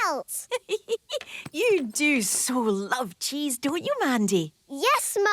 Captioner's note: giggling